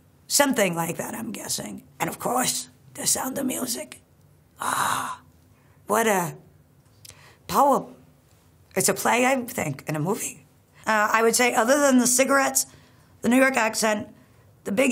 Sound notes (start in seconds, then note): 4.6 gasping loudly